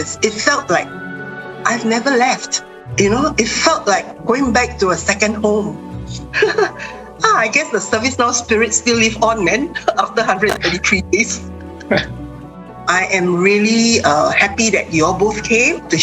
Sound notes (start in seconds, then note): 6.4 laughs; 11.8 people chuckling